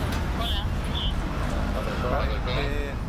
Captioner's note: speaking in Spanish; conversing in Spanish